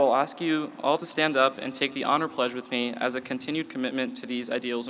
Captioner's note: none